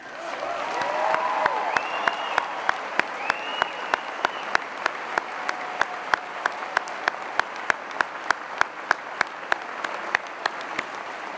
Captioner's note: cheering and Applause